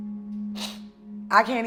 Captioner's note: sniffling